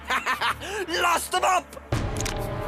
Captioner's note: laughs